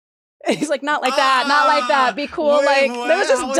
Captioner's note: laughs